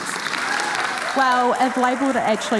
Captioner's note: audience applauding and cheering